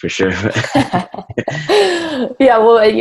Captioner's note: both laugh